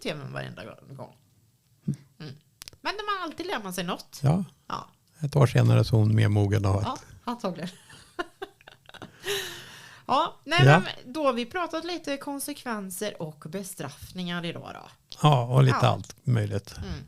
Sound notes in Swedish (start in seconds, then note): 7.7 skratt; 9.1 drar efter andan